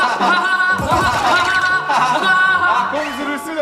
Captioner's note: hahahaha